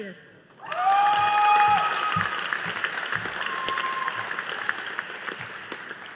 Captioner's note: audience applauding